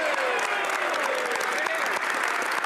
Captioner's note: speaking French